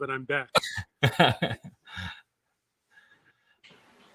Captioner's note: John laughs